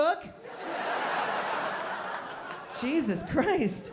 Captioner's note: laughter